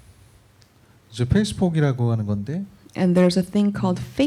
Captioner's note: speaking korean